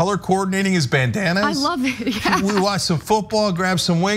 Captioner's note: laugh